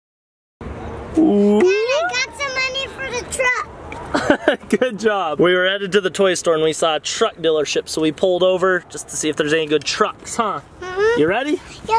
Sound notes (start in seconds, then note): 4.1 laughs